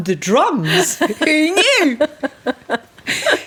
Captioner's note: laughing